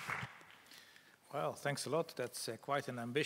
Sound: applause

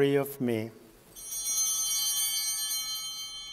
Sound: bell ringing

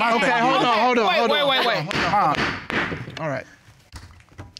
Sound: gavel banging

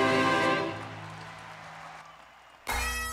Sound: applause; upbeat bagpipe music

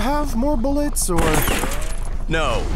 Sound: gunshot

